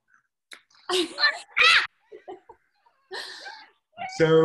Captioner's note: laughing